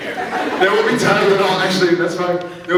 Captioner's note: scattered laughs